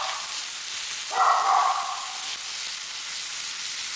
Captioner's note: bark